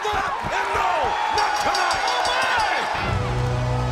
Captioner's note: bell dinging; dramatic music